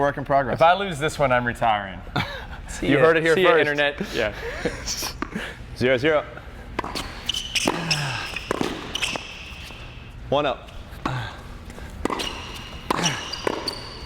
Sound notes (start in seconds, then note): 2.1 laughs